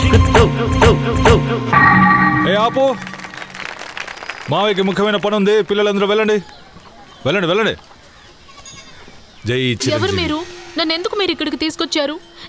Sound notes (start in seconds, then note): 3.0 applause